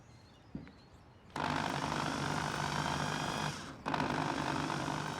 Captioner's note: drill buzzing